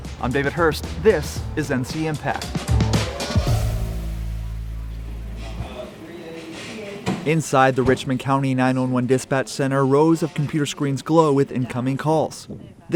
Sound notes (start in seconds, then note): 2.5 upbeat music; 5.6 people chattering